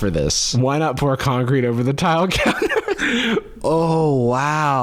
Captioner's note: laughs